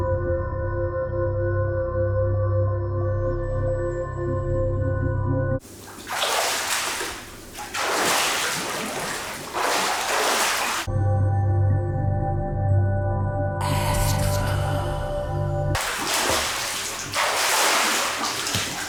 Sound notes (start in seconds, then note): 5.6 splashing; 10.9 light hypnotic music; 14.4 whispering; 15.7 splashing